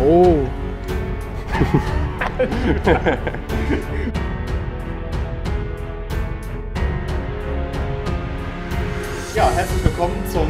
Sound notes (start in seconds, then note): 1.4 laughter